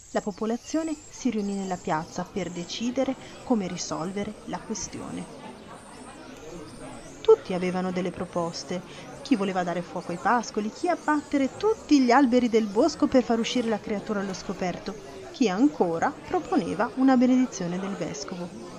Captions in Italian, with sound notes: la popolazione si riunì nella piazza per decidere come risolvere la questione. [Rumori di folla] Tutti avevano delle proposte: chi voleva dare fuoco ai pascoli, chi abbattere tutti gli alberi del bosco per far uscire la creatura allo scoperto, chi ancora proponeva una benedizione del vescovo…